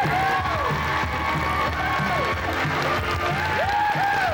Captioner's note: cheers, applause